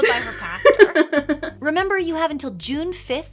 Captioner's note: laughs